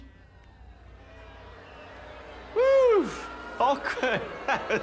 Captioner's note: audience boos